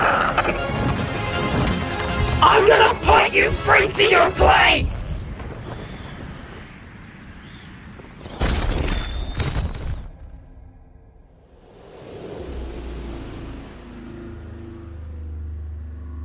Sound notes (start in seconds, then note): 0.0 shrieking; 0.0 dramatic music plays; 2.4 glitched voice